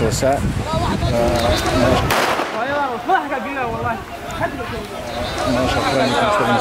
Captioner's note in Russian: крики